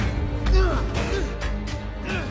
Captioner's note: grunting